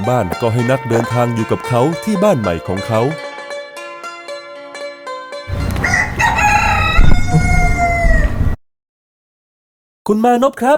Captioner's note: shout from a distance